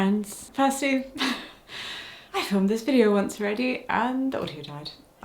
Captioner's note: chuckles